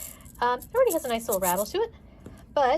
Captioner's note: egg rattling